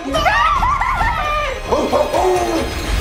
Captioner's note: screaming